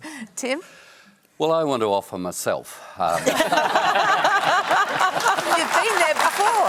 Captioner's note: applause